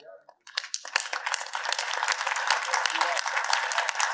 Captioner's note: audience applauding